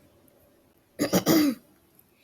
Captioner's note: clears throat